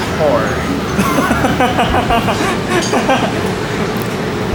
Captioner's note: laugh